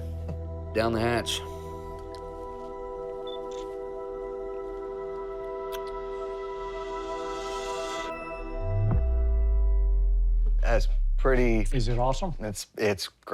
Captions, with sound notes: Down the hatch. [camera clicks] That's pretty-- Is it awesome? It's great.